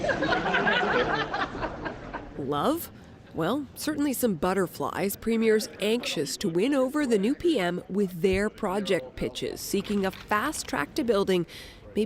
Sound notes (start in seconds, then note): 3.0 laughter